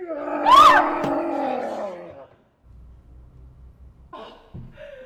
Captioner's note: person growling; Madame yelps